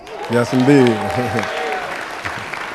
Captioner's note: applause